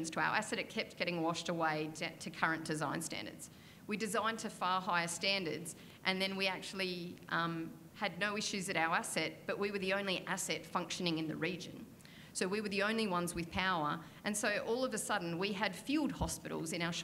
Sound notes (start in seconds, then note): none